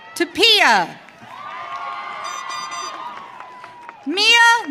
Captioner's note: audience cheering